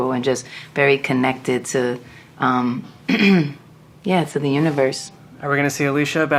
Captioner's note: clears throat